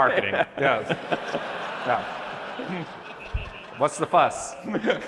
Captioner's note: laughter